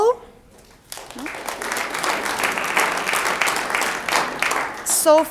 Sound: audience applauds

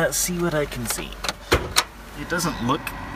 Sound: car hood popping

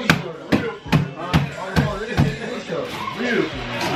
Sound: hammering

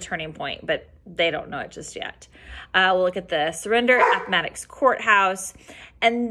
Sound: dog barking

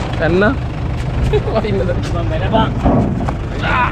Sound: laughing

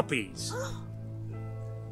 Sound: gasps in shock

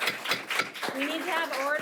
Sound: gavel pounds

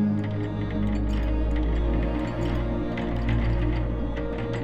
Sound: metal clanking

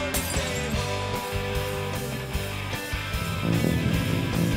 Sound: glass shattering

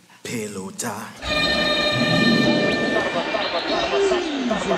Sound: horn blows

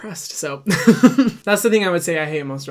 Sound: laughing

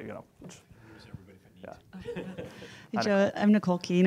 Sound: background chattering

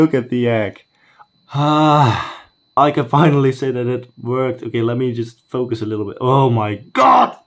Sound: sigh

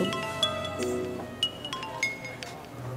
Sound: phone rings

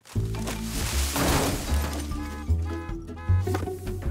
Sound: glass breaking; car alarm blaring

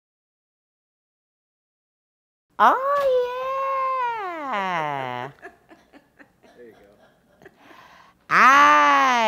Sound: laughter

